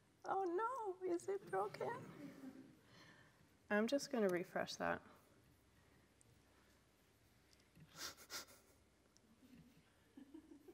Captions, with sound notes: Oh, no, is it broken? I'm just gonna refresh that. (sniffs)